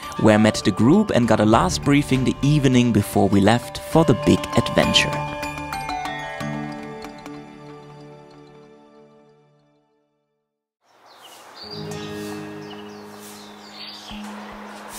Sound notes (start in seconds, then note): 10.8 birds chirp; 11.5 soft music